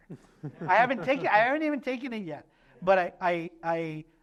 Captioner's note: laughter